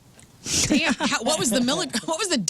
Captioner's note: laugh